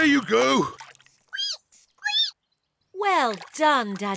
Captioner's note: laughs; squeaks